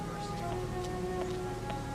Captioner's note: footsteps